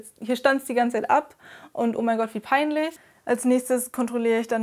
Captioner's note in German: none